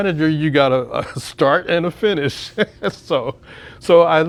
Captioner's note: laughs